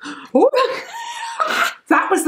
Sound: laughs

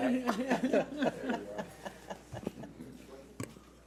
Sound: laughs

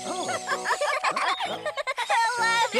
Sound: laughing

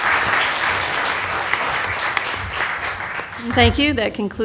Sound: applause

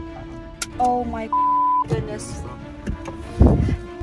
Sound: beep

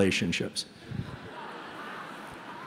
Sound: laughter

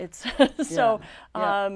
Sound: laughs

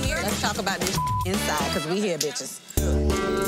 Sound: beep; upbeat music

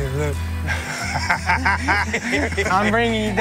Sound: laughing

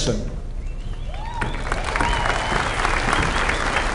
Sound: applause

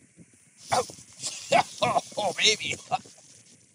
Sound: spluttering

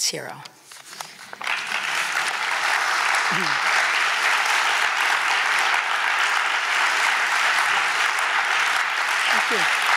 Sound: applause

